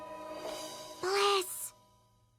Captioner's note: whispers